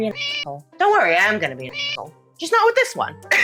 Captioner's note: meow